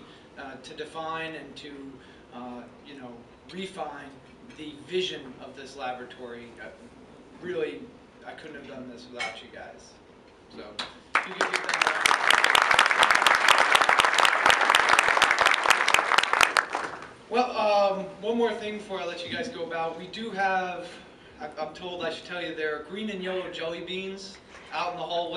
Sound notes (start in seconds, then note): 11.1 applause